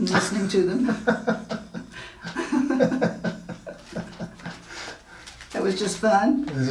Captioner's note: laughing